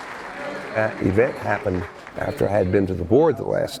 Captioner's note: applause and chatter continue